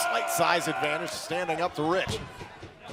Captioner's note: crowd chatter